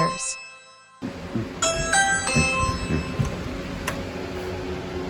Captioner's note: ring doorbell plays